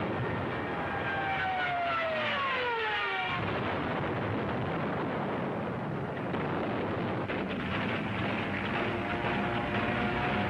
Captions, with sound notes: and nobody wanted to screen her films. So she returned home to face the truth. [bombs exploding]